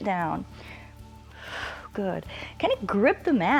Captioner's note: exhales